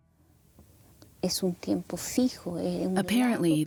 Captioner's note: speaking Spanish